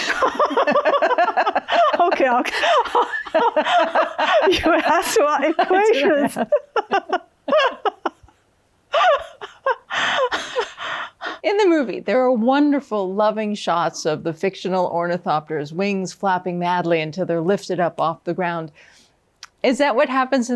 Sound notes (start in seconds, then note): 0.0 both laughing; 5.1 continues laughing; 6.9 both laughing